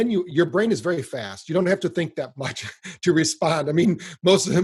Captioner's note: laughs